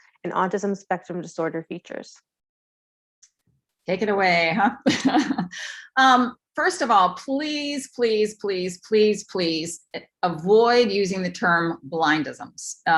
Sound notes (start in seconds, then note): 4.6 laughter